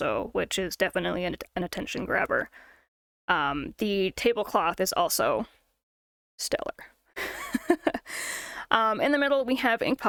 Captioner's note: chuckle